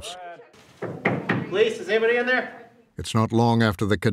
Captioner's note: knocks on door